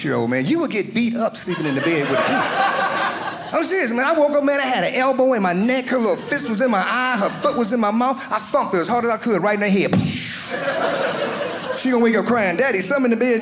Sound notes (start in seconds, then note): 1.4 audience laughing; 9.9 thumping sound